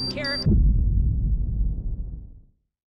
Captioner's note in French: Une mine explose